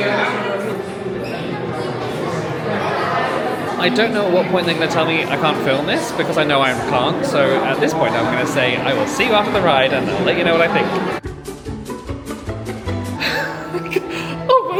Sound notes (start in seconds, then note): 1.8 guests chatting indistinctly continues; 11.0 upbeat music